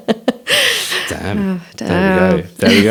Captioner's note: laughs